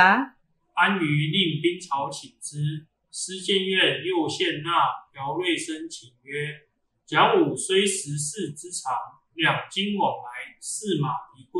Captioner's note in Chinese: 朗讀